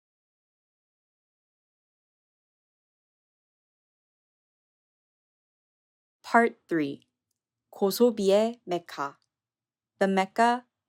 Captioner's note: non-English language spoken